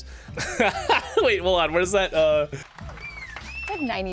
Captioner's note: laughs